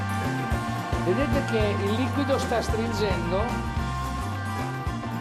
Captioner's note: upbeat music; speaking in foreign language; upbeat music